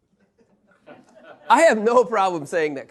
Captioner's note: laughter